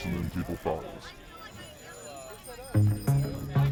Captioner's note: bells dinging; upbeat music